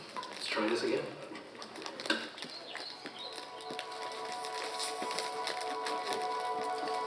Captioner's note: enchanted music; birds chirping